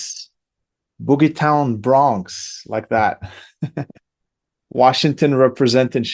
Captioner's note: laughs